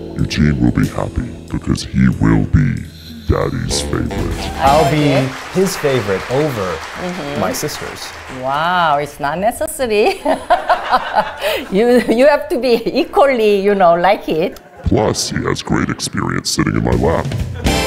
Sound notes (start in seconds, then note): 9.9 laughs; 9.9 audience laughs